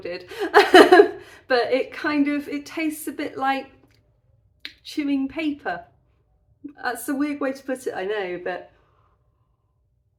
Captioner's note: laughing